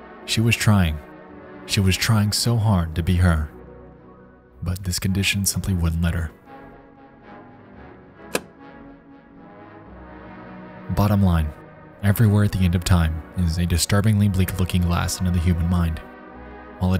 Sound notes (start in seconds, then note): 6.5 lighthearted orchestral music; 8.3 projector clicks; 9.2 lighthearted orchestral music